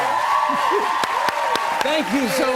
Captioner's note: cheers and applause